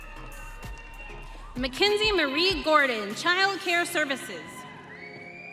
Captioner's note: audience cheering